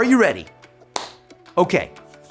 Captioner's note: clapping hands